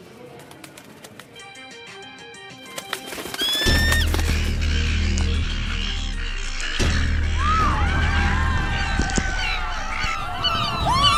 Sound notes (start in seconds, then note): 0.2 wings flapping; 3.3 gulls squawking; 5.2 air quavering; 7.5 gull squawking